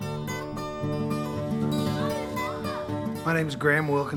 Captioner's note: upbeat music; child shouting happily